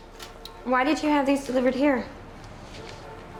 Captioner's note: none